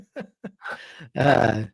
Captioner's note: laughs